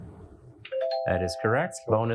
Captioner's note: bell dings